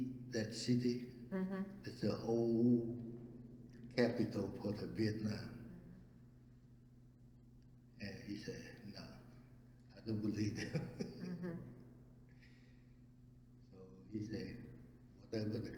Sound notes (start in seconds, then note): 10.3 laughs